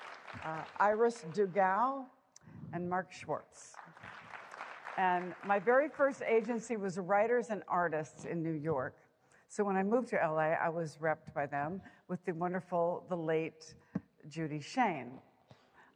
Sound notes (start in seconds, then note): 3.6 applause